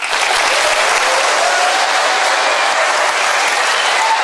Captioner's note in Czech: potlesk